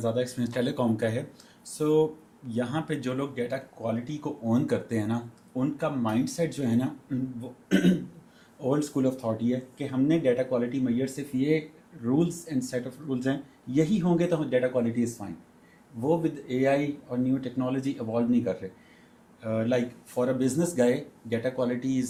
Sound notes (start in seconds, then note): 7.7 गला साफ़ करने की आवाज़